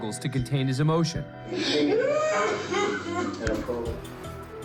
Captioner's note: sobbing loudly